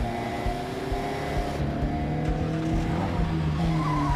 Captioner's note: engine turns over